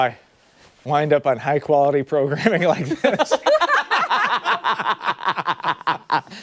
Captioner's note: laughter